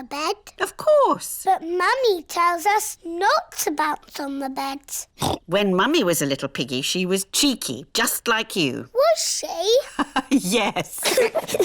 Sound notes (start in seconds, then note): 5.2 oinks; 9.8 both giggle; 10.8 laughs